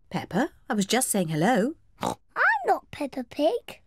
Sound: oinks

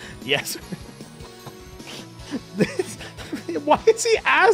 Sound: laughs

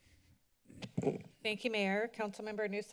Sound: microphone rustles

